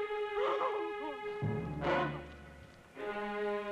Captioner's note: crying